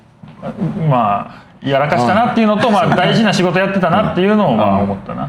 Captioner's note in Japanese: 笑い